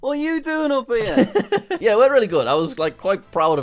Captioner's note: laughs